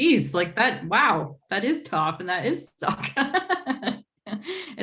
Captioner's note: laughs